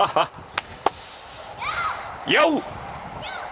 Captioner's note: Honoka fan yells again